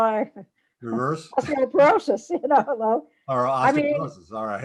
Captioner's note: laughs; laughs